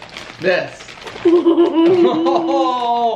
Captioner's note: laugh